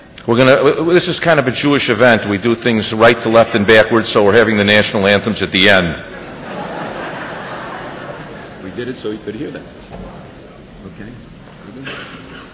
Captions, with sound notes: This is kind of a Jewish event, we do things right to left and backwards, so we’re having the national anthems at the end. (laughter) We did it so he could hear them, okay?